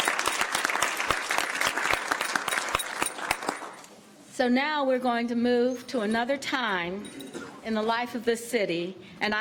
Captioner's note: cheers and applause